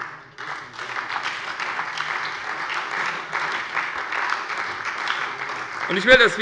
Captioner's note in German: Beifall bei der SPD